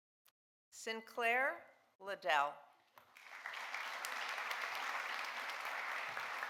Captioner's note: audience applauding